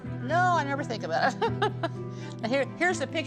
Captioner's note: chuckling